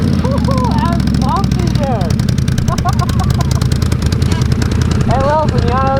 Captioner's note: laughs